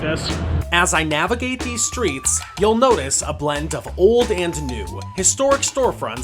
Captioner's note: voiceover